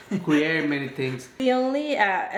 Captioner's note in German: lacht